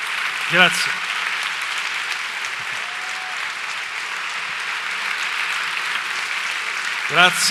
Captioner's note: applause